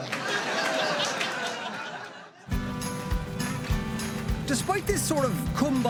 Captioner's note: laughter